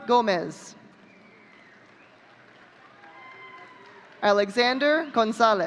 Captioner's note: audience cheering